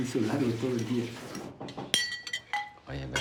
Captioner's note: knocking